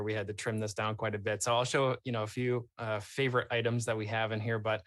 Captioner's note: none